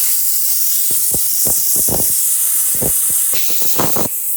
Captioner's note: steamer spraying